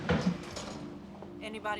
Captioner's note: door closing